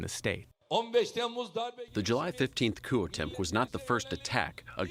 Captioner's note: through translator